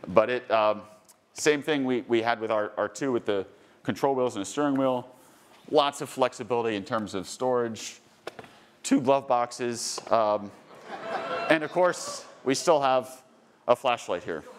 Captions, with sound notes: but same thing we had with our R2 with the control wheels and the steering wheel, lots of flexibility in terms of storage, two glove boxes, (attendees laughing and cheering) and of course we still have a flashlight here.